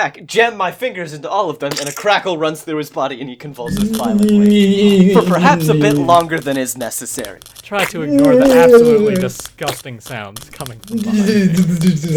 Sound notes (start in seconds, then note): 5.4 Crackling and various grunting sounds from Markus; 10.5 squishy noises and Markus groaning